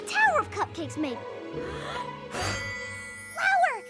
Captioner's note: exhales sharply